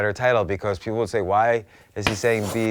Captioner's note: chalk writing